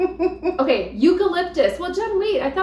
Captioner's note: laughs